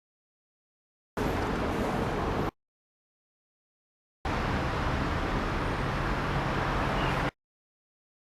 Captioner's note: outdoor sounds cut in and out